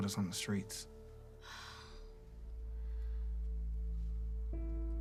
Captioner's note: Cassie exhales